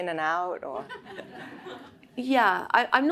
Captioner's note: audience laughs